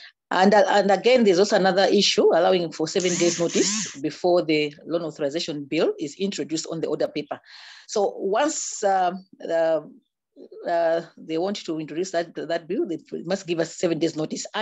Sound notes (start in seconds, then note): 3.0 buzzing